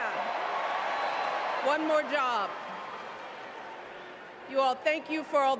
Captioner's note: cheers